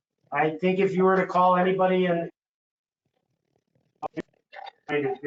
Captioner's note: distorted audio